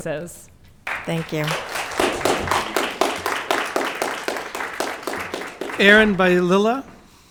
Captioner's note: audience clapping